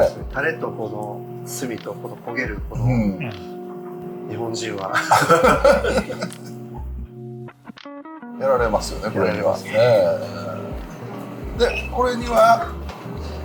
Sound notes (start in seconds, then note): 4.9 laughter